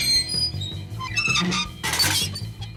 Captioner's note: metal squeaking